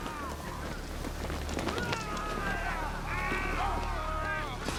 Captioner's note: men yelling and screaming